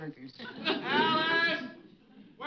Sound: audience laughing

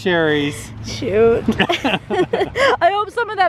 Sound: laughing

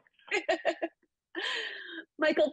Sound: giggles

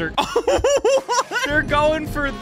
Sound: laughing

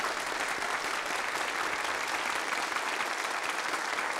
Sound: applause

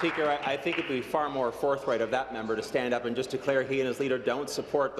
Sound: applause

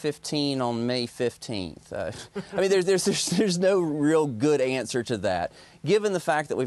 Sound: laughter

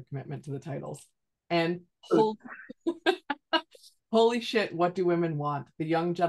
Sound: laughs

